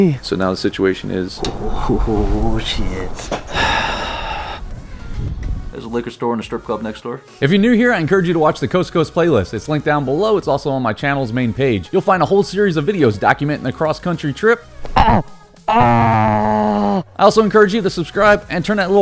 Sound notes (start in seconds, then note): 3.2 sighing